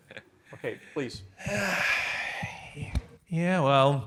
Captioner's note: attendee chuckling; attendee sighing